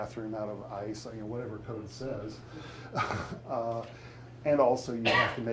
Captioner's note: chuckles